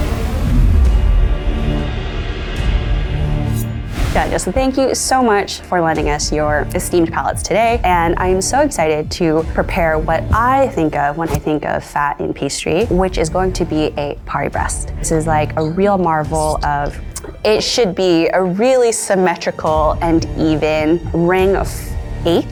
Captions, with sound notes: - Erika and Justin, thank you so much for lending us your esteemed palettes today. And I am so excited to prepare what I think of when I think of fat in pastry, which is going to be a Paris-Brest. - (whispering) Paris-Brest? - This is like a real marvel of... it should be a really symmetrical and even ring of eight little rounds